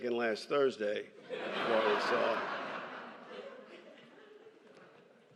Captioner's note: laughter